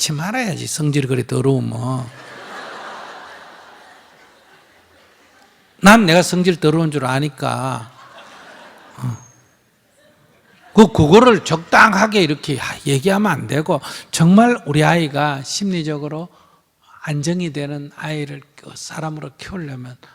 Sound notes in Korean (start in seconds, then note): 2.1 청중 웃음; 7.9 청중 웃음